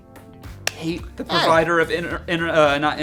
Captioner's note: hands slapping